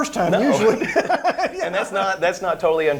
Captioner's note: laughs